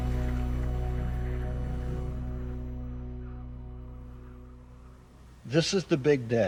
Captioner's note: music fades away; wind blowing